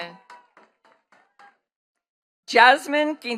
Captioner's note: attendees clapping